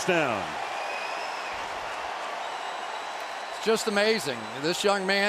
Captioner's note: cheering